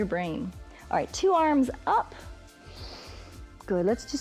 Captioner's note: inhales